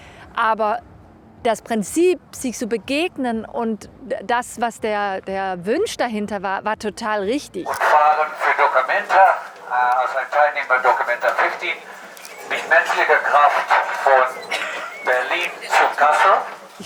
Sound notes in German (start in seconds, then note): 7.8 über Megaphon